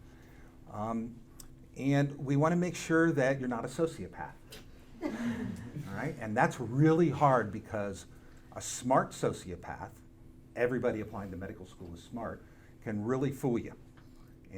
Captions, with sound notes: And we wanna make sure that you're not a sociopath. (audience laughing) All right? And that's really hard because a smart sociopath, everybody applying to medical school is smart, can really fool ya.